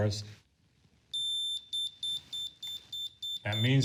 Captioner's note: device beeping